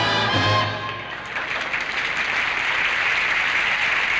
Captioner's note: applause